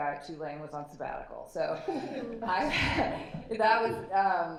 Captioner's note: laughter